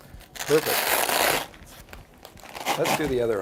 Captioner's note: cuff fabric releasing